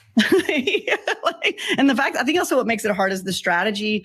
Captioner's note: laughs